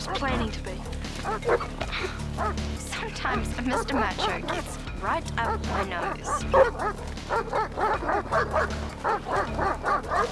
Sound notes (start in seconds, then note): 7.2 barking